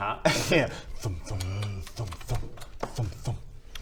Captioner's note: thump thump